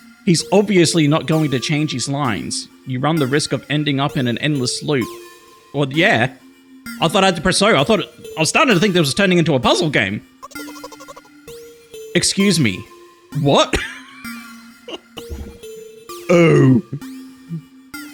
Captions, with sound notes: He's obviously not going to change his lines. You run the risk of ending up in an endless loop. Well yeah, I thought I had to press "O". I thought... I was starting to think that was turning into a puzzle game. Excuse me. What? [laughs] Oh.